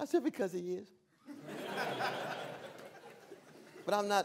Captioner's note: laughter